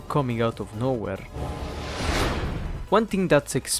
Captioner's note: dramatic zoom noises